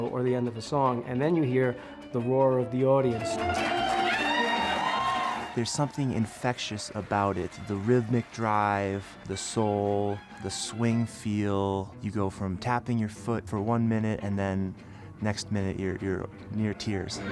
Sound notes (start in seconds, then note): 3.9 audience cheering